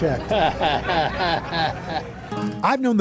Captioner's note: chuckles